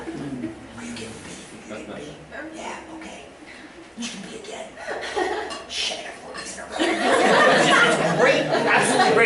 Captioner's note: background Discussion